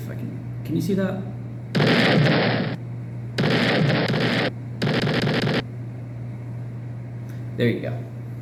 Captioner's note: boom